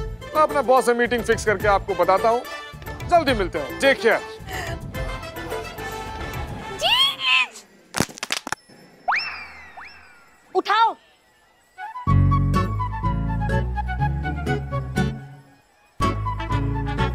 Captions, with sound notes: I will fix a meeting and let you know. See you soon. Take care. Jij! [thudding] Pick it up! [comical music]